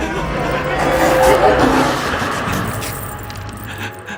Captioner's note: electrical burst